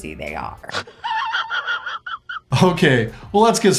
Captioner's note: man laughing